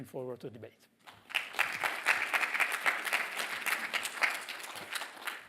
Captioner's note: applause